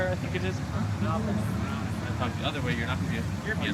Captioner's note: noise and background chattering